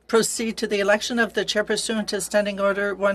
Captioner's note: speaking French